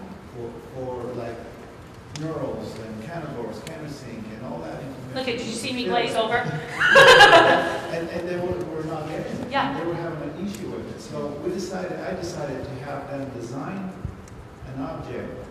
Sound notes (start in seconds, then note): 6.4 laugh